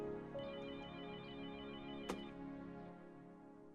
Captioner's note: telephone ringing